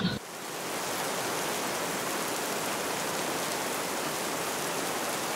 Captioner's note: rhythmic raining